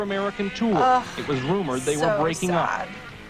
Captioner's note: groans